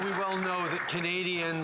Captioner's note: applause